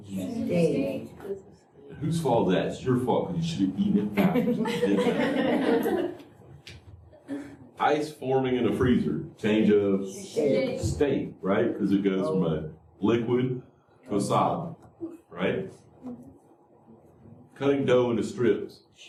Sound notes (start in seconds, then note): 7.8 laughter